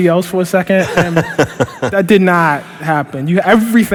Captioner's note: laughter